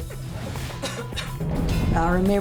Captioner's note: coughing